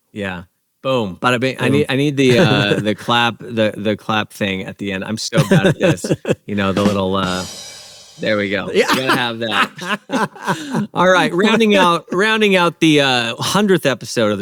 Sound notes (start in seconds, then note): 5.3 laughs; 6.7 cymbal bangs; 8.6 laughs